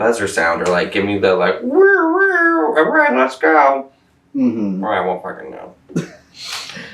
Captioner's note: makes siren noises